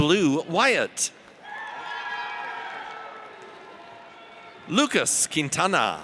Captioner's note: audience cheers